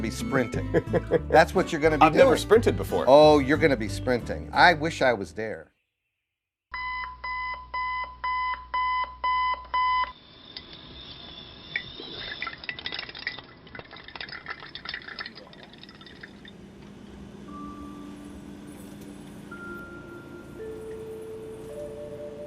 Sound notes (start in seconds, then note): 0.6 laughing; 6.8 beeping; 11.6 liquid trickling; 17.4 slow, quiet music